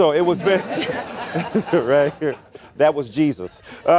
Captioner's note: laughter